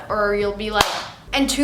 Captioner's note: hand clapping